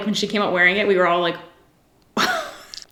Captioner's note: giggles